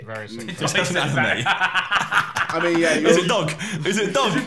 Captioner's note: laughing